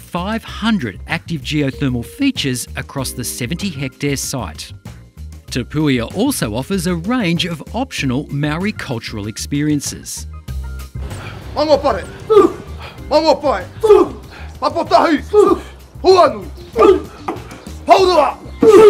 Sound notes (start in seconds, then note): 14.5 shouting